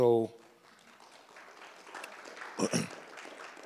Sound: audience applauds

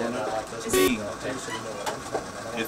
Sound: beeping

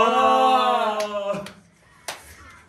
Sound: slap

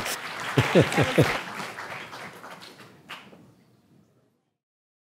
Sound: applause; laugh

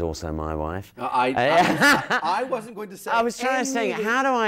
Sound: laughs

